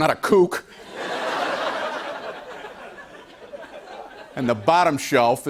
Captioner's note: laughter